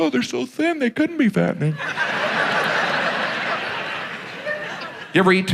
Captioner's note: audience laughs